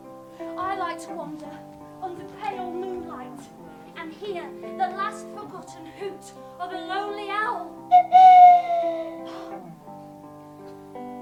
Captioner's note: owl hooting